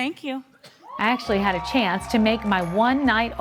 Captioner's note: audience cheering